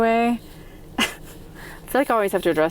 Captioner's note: chuckles